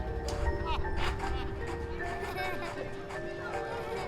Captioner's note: laughter